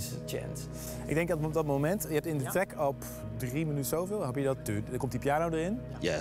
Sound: speaks in foreign language

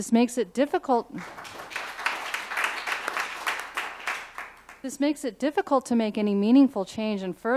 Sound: applause

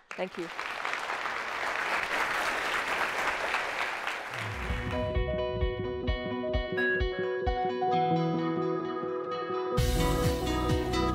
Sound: applause

